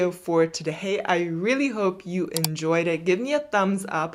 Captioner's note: mouse clicking